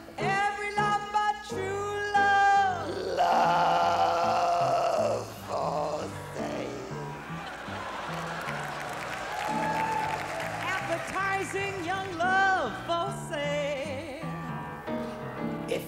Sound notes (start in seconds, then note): 5.1 in comical gravelly voice; 7.9 crowd laughs and cheers